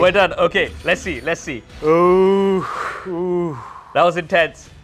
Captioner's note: exhales